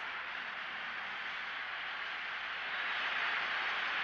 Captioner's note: fans cheering